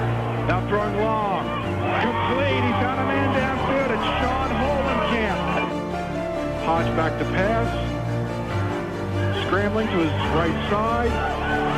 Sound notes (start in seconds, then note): none